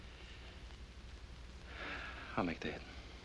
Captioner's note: sighs